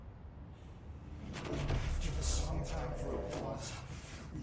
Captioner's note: in distorted voice